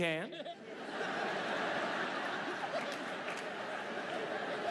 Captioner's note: audience laughs